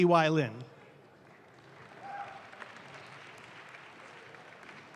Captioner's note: audience claps